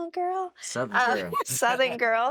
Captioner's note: laughs